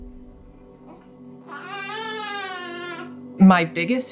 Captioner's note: air whooshing; slamming; baby cooing